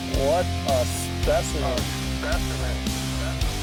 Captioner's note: voiceover